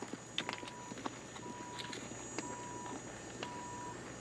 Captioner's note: horse galloping